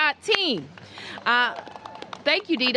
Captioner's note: applause